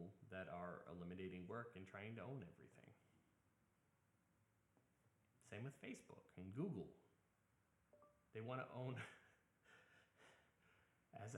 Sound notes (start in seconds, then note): 7.9 chime; 9.0 laugher